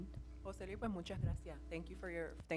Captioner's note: speaking in foreign language